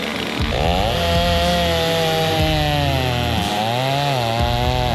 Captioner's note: saw whirring